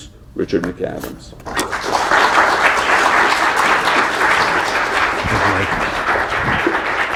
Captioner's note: applause